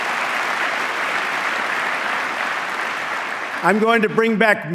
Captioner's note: applause